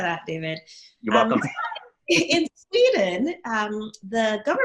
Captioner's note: laughs